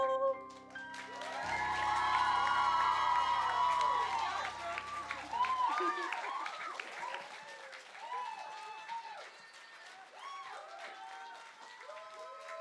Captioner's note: applause